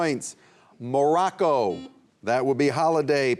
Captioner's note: buzzer buzzing